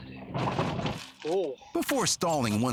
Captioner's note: vehicle rattles